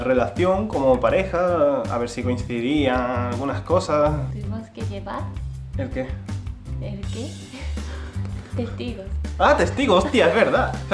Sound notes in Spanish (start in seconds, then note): 9.8 Risas